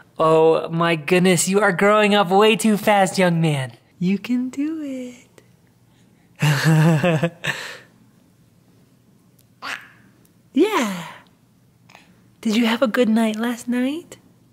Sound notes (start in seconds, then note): 6.4 laughs; 9.6 baby coos